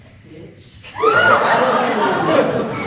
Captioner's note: aah!!